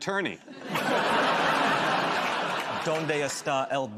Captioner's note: laughter